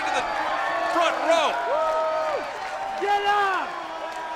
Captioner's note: crowd cheering